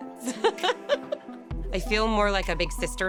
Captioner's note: laughs